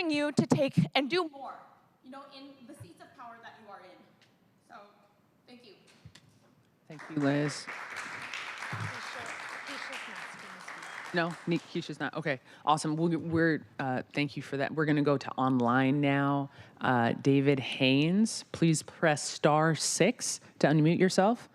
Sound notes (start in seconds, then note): 15.4 applause